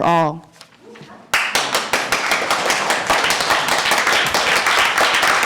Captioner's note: applause